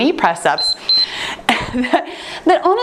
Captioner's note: timer beeping